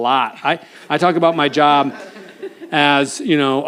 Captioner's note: audience laughs